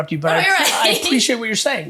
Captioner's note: laughs